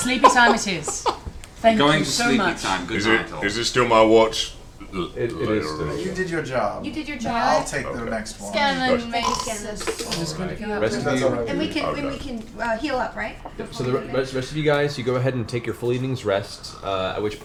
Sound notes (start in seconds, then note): 0.0 laughter; 9.2 snores